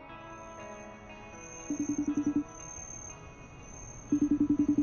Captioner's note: phone rings